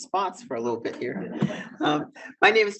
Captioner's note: audience chuckles